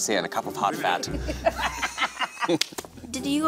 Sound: all laugh

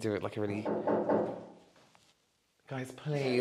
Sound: knocking

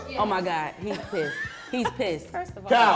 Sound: laughs

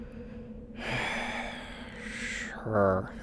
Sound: gilda sighs

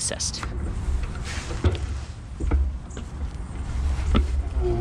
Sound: bicycle motor roaring

